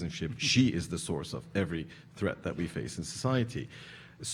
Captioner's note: none